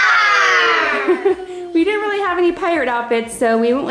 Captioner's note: laughs